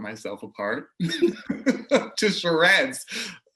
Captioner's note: laughs